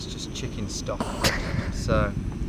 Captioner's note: laughs